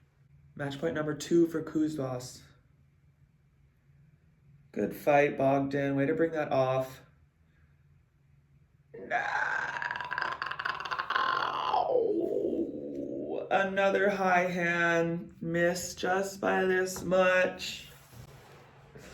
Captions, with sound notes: Match point number two for Kuzbass. Good fight, Bogdan. Wait to bring that off. (shrieks) Another high hand. Missed just by this much.